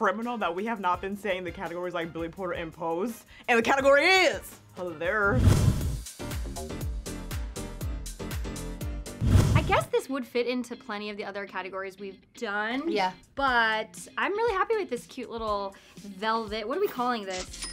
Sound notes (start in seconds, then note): 5.3 whoosh; 5.8 upbeat music; 9.2 whoosh